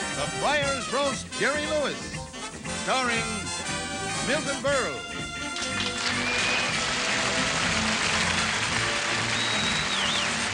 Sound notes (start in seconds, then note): 5.5 applause